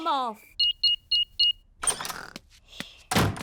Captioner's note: beeping